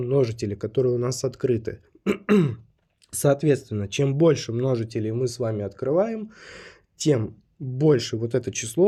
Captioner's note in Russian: откашливается